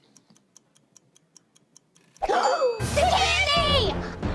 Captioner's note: timer ticking